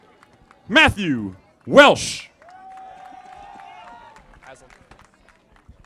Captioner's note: audience applauding